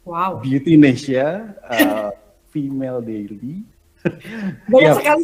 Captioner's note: non-english speech